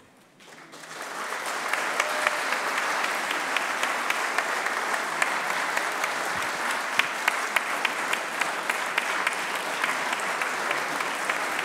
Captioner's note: applause